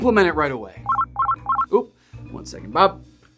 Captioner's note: phone ringing